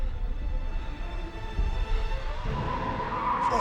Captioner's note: screaming